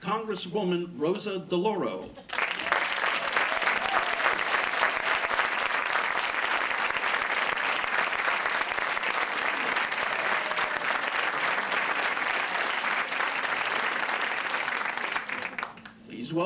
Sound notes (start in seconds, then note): 2.2 applause